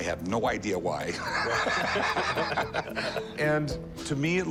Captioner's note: laughter